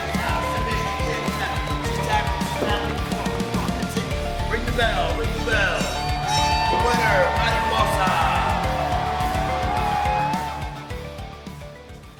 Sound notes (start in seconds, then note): 6.0 bell rings; 9.1 crowd cheering